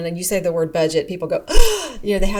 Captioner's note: gasping